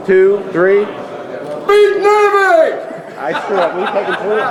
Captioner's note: group laughing